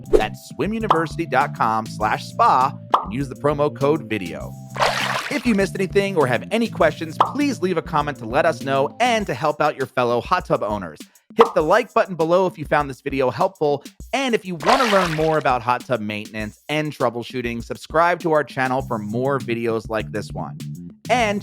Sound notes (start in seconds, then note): 4.7 water splashing; 12.1 bubble squeaking